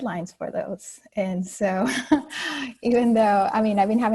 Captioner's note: laughing